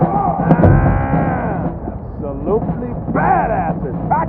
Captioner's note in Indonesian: Growls